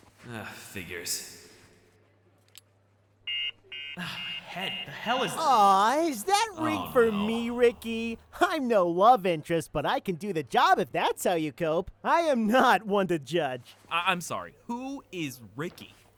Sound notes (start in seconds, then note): 3.2 beeping